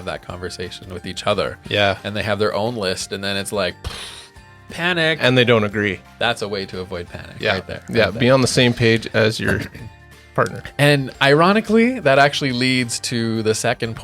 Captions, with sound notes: that conversation with each other. - Yeah. - And they have their own list and then it's like, (imitates explosion) panic! - And they don't agree. - That's a way to avoid panic. Right there. - Yeah. Be on the same page as your partner. - And ironically, that actually leads to the second point,